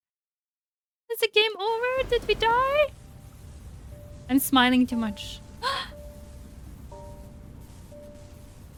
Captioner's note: gasps